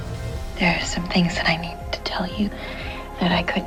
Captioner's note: voiceover